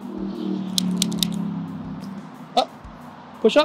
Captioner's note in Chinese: 喀嚓的声音